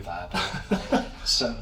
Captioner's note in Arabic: يضحك